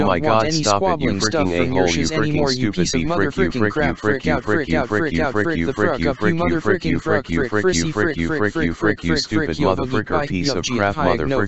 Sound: arguing happens

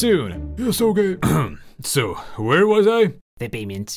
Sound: cough

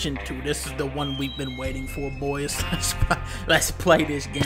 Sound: laughs

